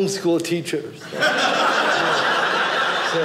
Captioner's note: audience laughing